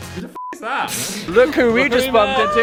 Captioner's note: beep